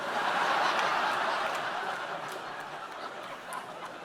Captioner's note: audience laughing